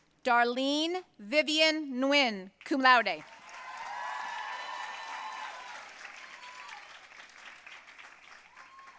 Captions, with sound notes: Darlene Vivian Nguyen, cum laude. (audience cheering and applauding)